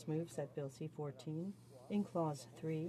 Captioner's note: speaking French